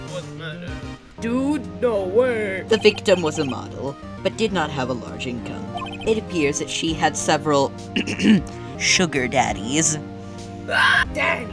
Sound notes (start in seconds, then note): 7.9 clears throat; 10.7 pterodactyl screech